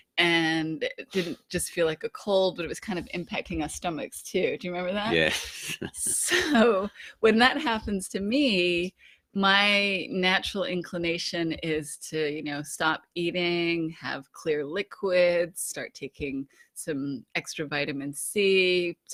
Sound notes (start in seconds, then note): 5.0 laughs